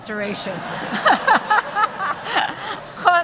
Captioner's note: laughter